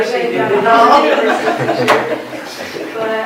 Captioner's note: laughter